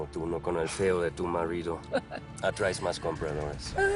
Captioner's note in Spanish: Risas